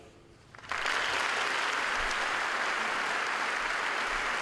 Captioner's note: applause